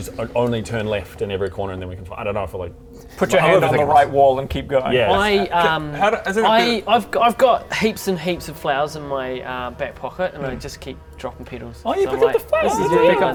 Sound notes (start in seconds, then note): none